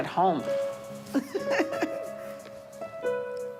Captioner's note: laughter